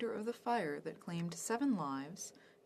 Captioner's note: speaking French